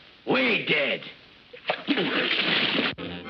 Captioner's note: splash; upbeat music